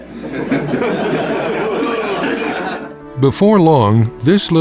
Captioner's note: laughter